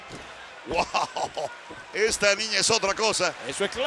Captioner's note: laugh